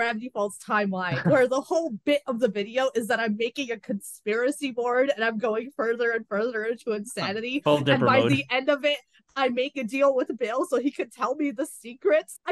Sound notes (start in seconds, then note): 7.6 laughs